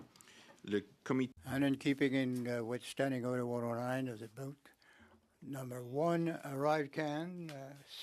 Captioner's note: speaking French